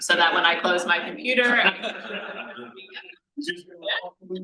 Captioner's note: panel laughs